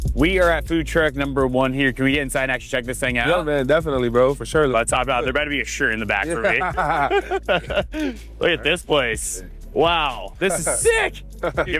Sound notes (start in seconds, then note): 6.2 all laughing